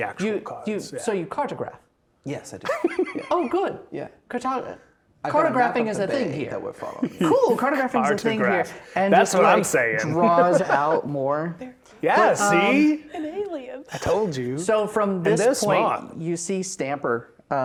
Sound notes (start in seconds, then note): 2.6 laughing; 10.0 laughing; 13.0 quietly